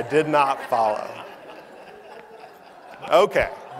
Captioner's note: laughter